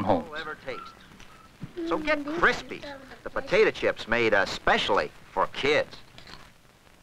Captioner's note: tv sound